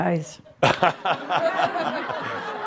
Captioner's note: Adamus chuckles